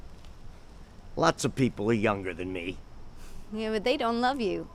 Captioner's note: scoffs